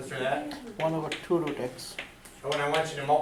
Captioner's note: voiceover